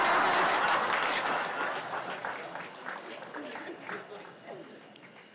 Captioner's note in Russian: Смех. Аплодисменты